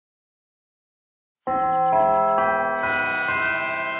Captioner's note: bell chimes